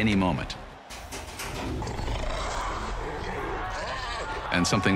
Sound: growling

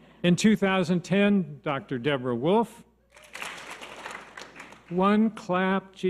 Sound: audience applause

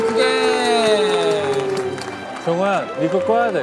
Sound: cheering

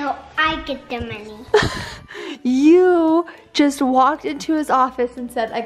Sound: laughs

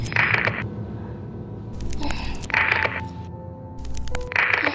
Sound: dramatic music; Lisa moaning; dramatic music

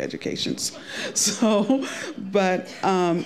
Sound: laughing

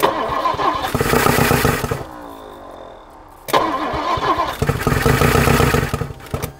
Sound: engine struggling to start

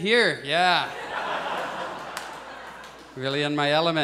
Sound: audience laughs

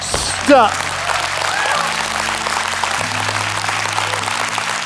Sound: audience claps

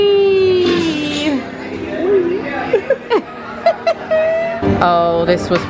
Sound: giggling

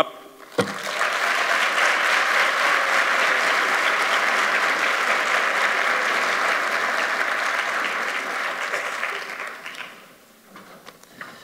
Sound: applause

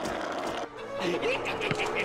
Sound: cackling

